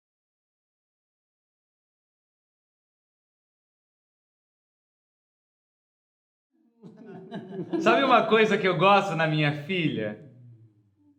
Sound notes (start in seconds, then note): 6.8 laughter